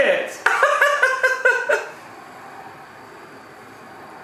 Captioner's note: laughing loudly